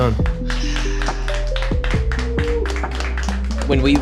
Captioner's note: staff applauding